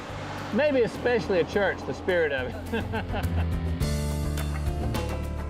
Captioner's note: laughs